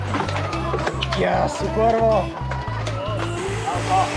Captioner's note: pedals